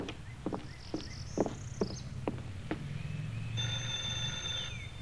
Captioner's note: birds chirping; doorbell buzzes